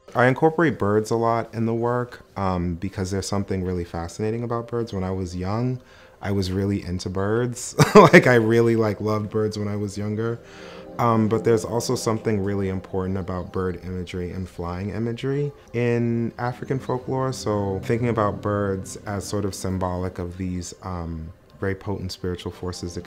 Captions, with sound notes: I incorporate birds a lot in the work because there's something really fascinating about birds. When I was young, I was really into birds. (chuckles lightly) Like I really like loved birds when I was younger but there's also something really important about bird imagery and flying imagery in African folklore. So thinking about birds as sort of symbolic of these very potent spiritual forces